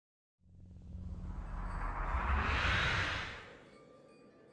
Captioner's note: swoosh sound